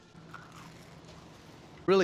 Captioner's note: crunching sound